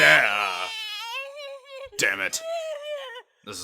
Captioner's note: Gohan cries